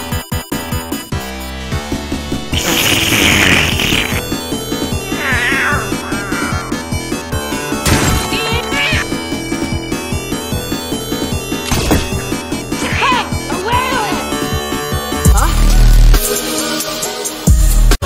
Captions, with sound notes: *S L U R P* meow this passenger... CHASE! NYAN?! HEY! stop flying * e x t r a t e r r e s t r i a l *